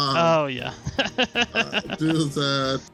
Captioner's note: laughs